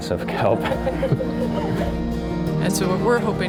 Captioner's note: laughter